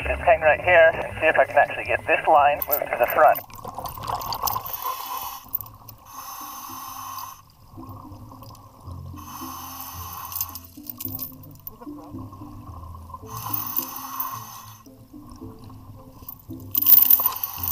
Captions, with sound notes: Let's just hang right here and see if I can actually get this line moved to the front. (diver breathing underwater)